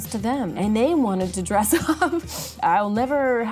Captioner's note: laughing